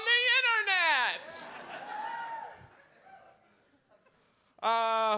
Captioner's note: audience laughs